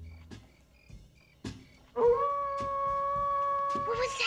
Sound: coyote howling

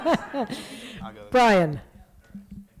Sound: laughter

